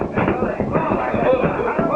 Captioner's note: crowd murmuring